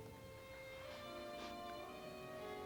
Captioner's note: sniffs